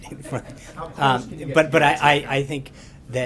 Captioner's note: laughter